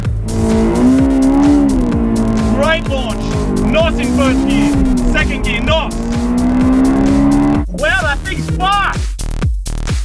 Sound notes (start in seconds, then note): 0.2 engine revving and accelerating; 8.5 engine accelerating